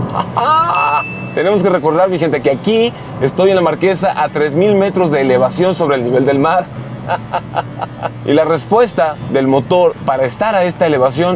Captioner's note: laughter